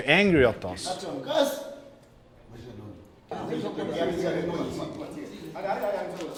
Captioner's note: speaking foreign language